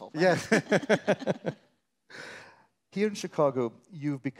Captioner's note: laughing; laughing